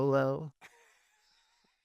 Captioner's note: laughing